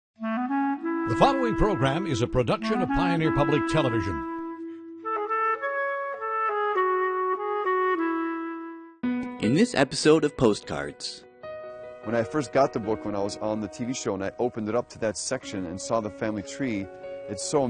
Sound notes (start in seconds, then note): 1.4 voiceover; 9.7 voiceover